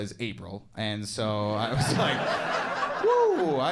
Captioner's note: audience laughing